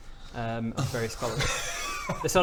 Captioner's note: ungrateful sigh